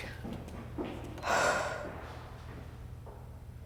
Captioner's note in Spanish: suspiro